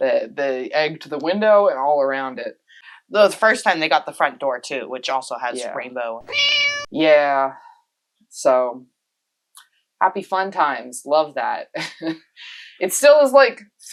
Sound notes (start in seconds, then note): 6.2 meow